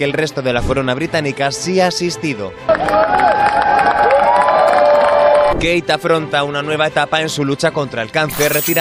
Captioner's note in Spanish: ovación